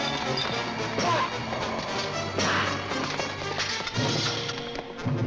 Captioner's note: men grunting